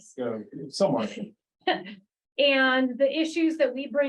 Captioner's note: laughs